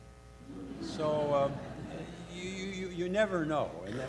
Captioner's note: audience laughs